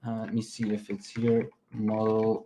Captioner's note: keyboard clacking